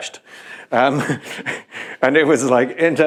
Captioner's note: chuckles